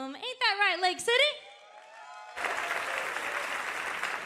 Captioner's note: cheers and applause